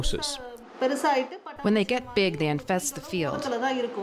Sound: through translator

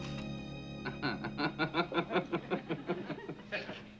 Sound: laughs

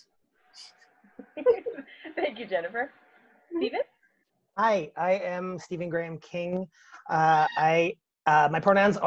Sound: laughs

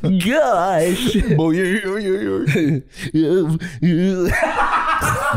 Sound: both making wordless Nerd Sounds

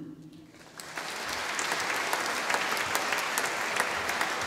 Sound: audience applauding

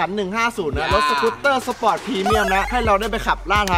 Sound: laughs

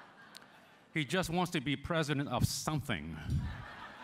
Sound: laughter

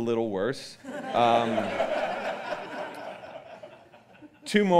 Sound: audience laughing

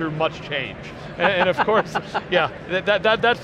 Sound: laughter

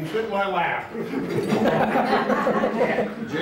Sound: laughter

